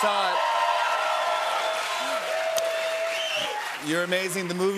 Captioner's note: cheers and applause